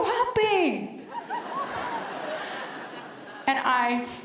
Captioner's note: laughter